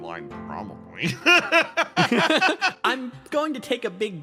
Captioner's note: laughs